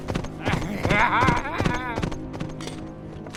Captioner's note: Gaylord_Steambath laughs